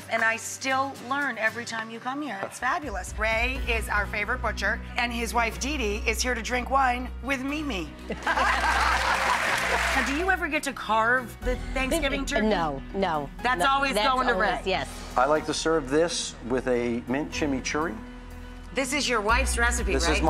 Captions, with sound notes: and I still learn every time you come here. It's fabulous. Ray is our favorite butcher and his wife Dee Dee is here to drink wine with me-me. (everyone laughs) (audience applauds) Have you ever get to carve the Thanksgiving turkey? No. No. That's always going to Ray. That's always, yes. I like to serve this with a mint chimichurri. This is your wife's recipe, right?